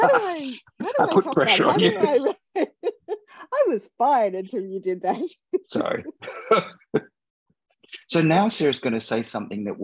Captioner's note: laughs